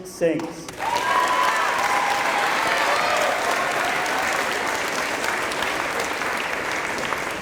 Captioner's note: applause